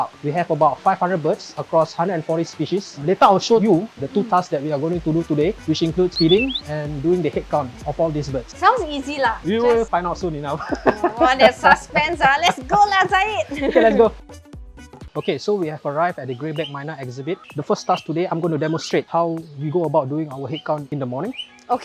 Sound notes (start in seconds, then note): 10.5 evil laughs; 13.5 laughs